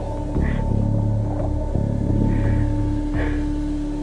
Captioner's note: muffled crying